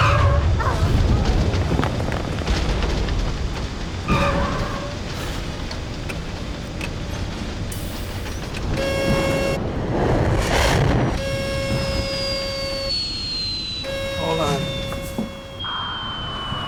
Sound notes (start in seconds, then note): 8.6 alarm Sounds; 11.1 alarm Continues